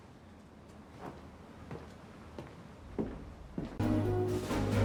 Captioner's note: footsteps